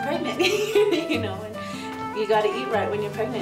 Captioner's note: laughing